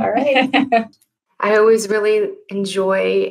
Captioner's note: laughs